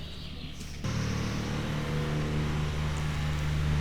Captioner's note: birds chirping